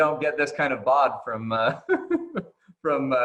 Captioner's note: laughing